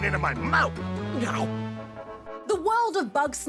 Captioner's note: gulp!